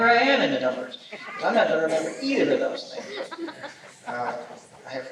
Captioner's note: laughter